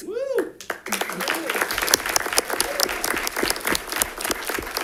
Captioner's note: audience clapping